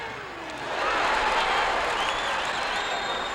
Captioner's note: crowd exclaims; crowd cheering